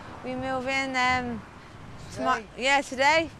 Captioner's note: none